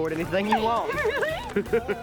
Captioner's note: laughing